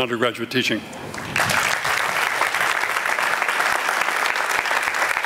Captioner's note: applause